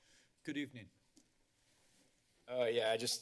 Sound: rustling sound

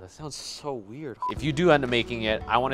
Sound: electronics beep

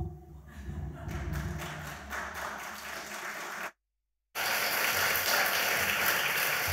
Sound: audience laughs; audience applauds

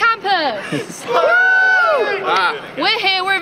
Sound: cheering

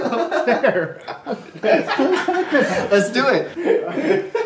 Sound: laughter

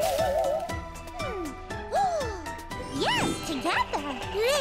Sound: gasps

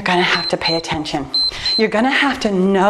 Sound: timer beeps

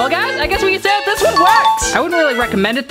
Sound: dinging

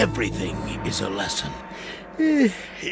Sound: yawns

